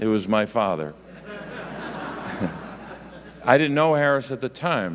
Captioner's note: audience laughing